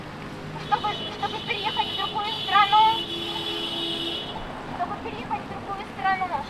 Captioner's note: passing cars honk in support